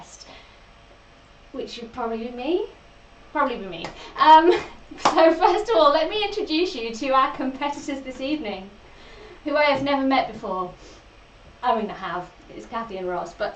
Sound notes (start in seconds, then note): 4.3 laughs